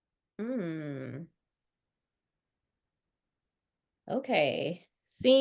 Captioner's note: humming